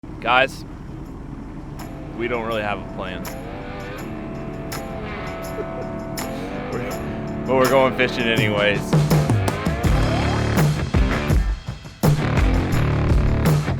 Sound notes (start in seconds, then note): 3.6 mellow music; 5.1 man laughing; 10.2 upbeat music